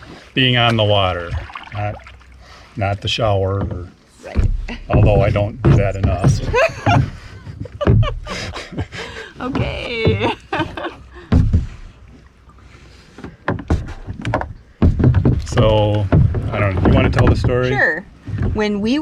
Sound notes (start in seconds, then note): 9.5 laugh